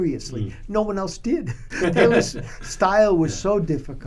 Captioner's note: laughter